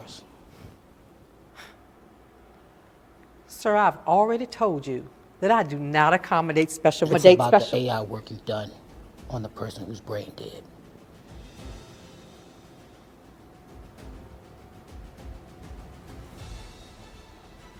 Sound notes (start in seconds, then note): 1.8 scoffs; 10.8 dramatic music